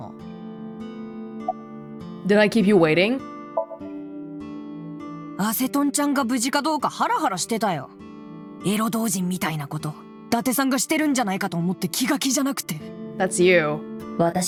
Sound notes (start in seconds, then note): none